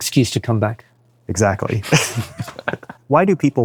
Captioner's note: laughs